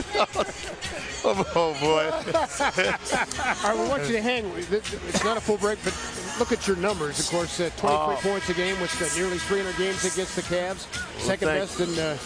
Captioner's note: laughing